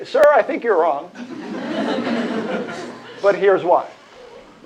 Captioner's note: laughter